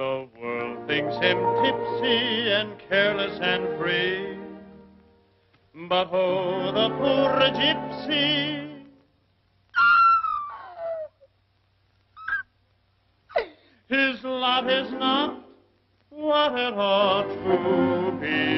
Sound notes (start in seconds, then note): 9.9 squealing